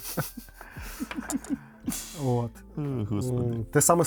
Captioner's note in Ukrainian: сміх